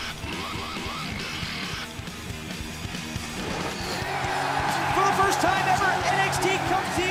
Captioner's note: crowd cheering